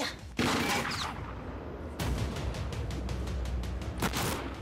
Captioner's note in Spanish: siguen los disparos